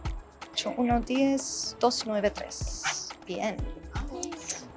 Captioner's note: speaking in Spanish; students cheer softly